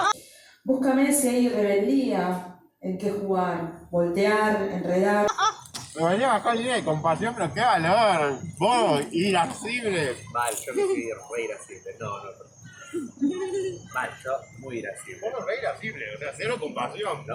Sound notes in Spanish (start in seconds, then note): 0.0 risas; 5.2 risas; 12.7 Risas de fondo